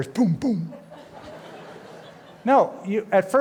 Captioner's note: laughter